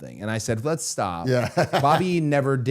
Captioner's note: laughs